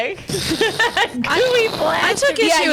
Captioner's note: laughs